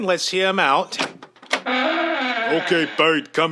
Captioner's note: door opens